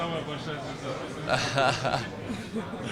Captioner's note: laughing